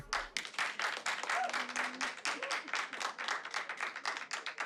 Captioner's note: audience clapping